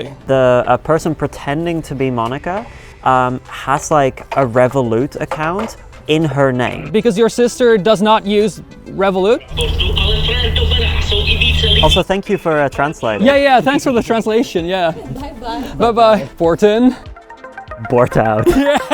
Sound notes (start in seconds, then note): 9.8 brother-in-law speaking in foreign language; 18.4 laughing